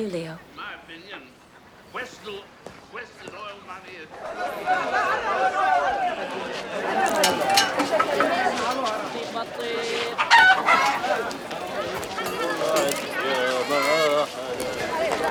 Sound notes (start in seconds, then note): 3.5 city commotion; 9.5 chickens clucking; 12.2 man singing tune